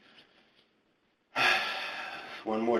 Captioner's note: deep breath